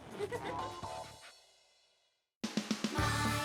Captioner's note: laughter